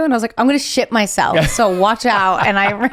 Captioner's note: laughs